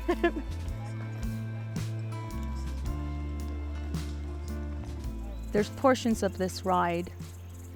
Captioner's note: laugh